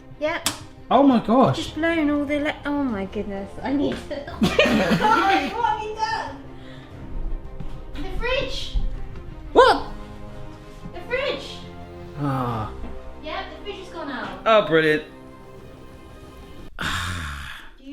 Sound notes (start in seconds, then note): 4.3 laughing; 12.0 groaning